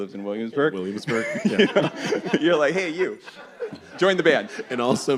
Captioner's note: laughter